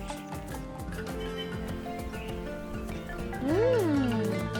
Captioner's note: birds chirping